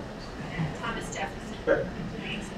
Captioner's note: speaking away from mic